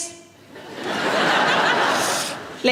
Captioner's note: audience laughing